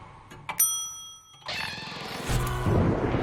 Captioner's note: creaking; elevator bell chimes; eerie